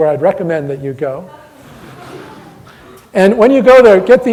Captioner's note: audience laughter